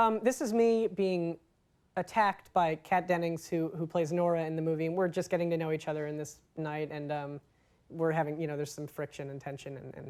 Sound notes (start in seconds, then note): none